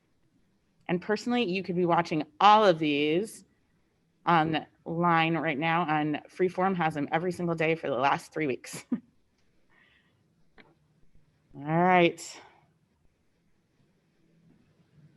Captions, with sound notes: And personally you could be watching all of these on the line right now on Freeform has them every single day for the last three weeks (laughs). All right. All right.